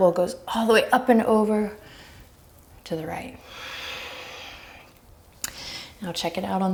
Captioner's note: deep breaths